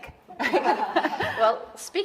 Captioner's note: audience laughing